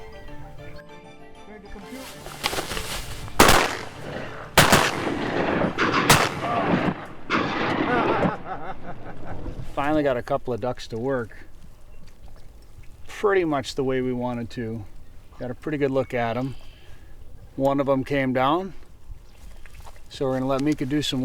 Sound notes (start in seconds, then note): 3.7 gunshots; 7.9 man laughing